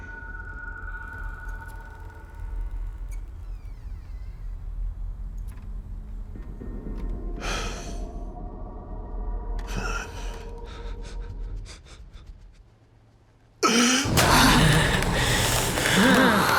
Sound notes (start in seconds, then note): 7.1 sighing; 9.8 shaky breathing; 14.0 growling